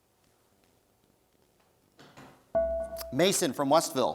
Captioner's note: dinging